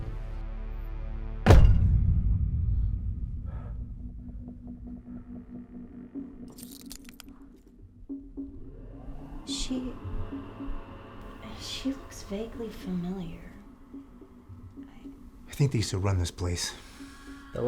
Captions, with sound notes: (tense music) (door banging) - She looks vaguely familiar. - I think they used to run this place.